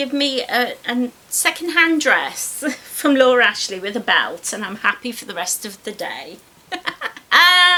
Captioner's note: giggles